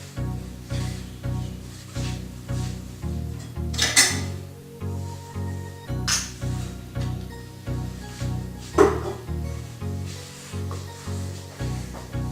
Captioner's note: sounds of preparing